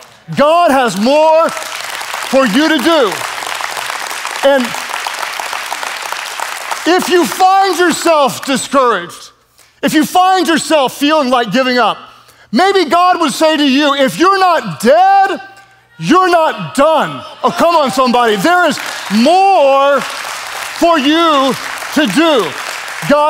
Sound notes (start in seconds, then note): 0.0 audience claps; 17.6 audience claps